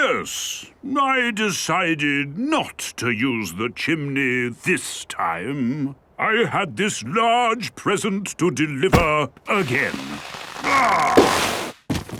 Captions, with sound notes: - Yes. I decided not to use the chimney this time. I had this large present to deliver again. (groaning)